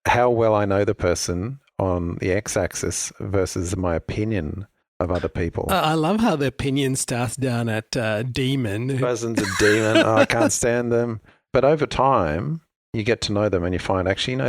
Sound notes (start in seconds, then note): 9.0 laughs